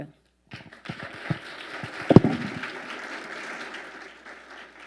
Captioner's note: audience applauding